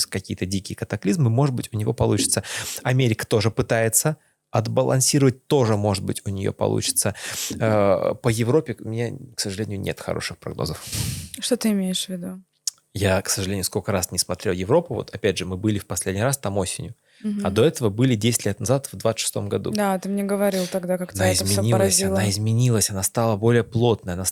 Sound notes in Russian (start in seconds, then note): 10.8 фыркает